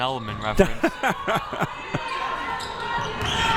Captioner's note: laughs